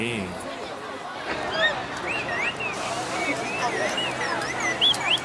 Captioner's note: A train passes by right on cue